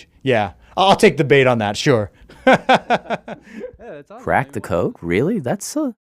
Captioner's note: laughs